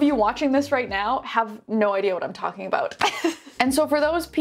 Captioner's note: laughs